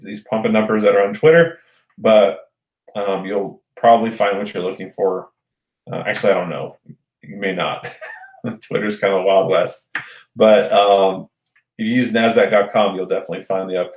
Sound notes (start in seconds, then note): 7.8 chuckles